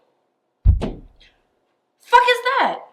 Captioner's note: object falling